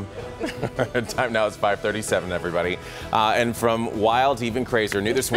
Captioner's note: laughter